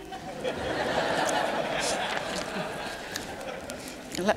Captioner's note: laughter